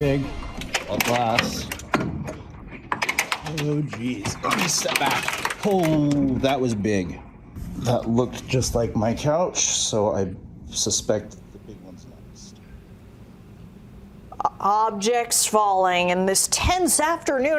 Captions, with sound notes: *OBJECTS FALL* *OBJECTS FALL* A *OBJECTS FALL* A TENSE *OBJECTS FALL* A TENSE AFTERNOON *OBJECTS FALL* A TENSE AFTERNOON ON *OBJECTS FALL* A TENSE AFTERNOON ON THE A TENSE AFTERNOON ON THE STRIP